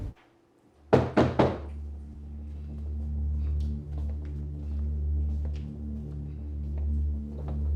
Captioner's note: loud knocking; tense music